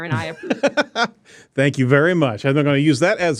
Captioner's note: laughs